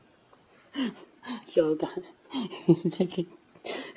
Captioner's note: laughing uncontrollably